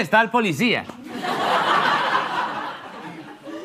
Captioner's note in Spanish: Risas